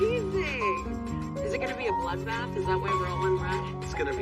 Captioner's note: none